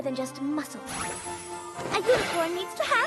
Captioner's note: tinkling